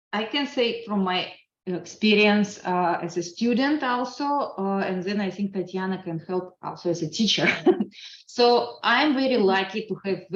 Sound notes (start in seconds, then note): 7.4 chuckles